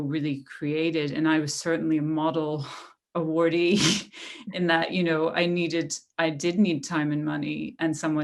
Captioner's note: laughter